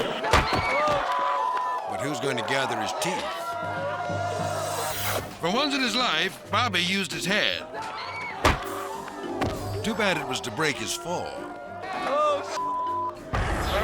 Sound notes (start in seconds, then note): 0.0 skaters shouting; 0.3 thuds; 4.7 crowd shouting; 8.4 head whacks; 13.1 beep